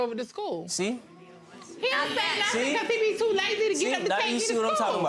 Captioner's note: audience murmuring